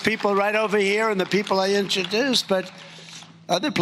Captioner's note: applause